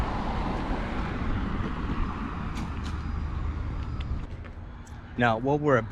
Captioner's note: street noise